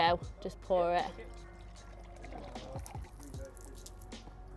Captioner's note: water pours